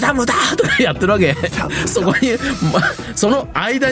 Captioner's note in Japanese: 笑い